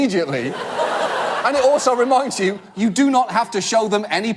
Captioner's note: audience laugh